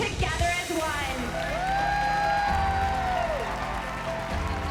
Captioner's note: cheers and applause